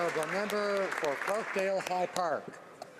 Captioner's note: some Applause